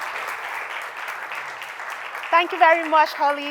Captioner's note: applause